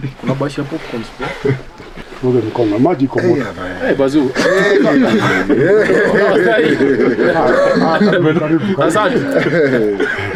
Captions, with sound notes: Popcorns galore The water is hot to wash your hands (laughter) no its too cold